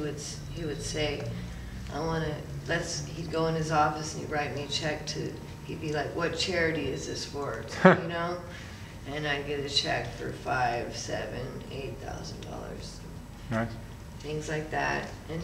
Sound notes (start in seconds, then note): 7.7 interviewer chuckles